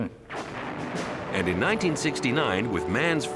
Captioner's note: rocket blasting; dramatic music